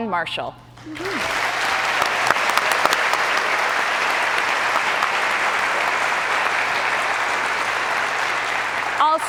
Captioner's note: cheers and applause